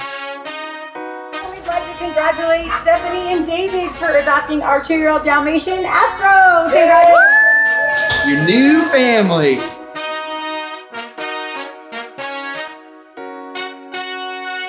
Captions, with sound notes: - We'd like to congratulate Stephanie and David for adopting our two year old Dalmatian Astro. (crowd cheers) - Your new family. (triumphant music continues)